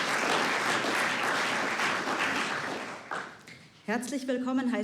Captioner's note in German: Applaus